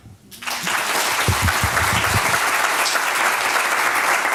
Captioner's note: applause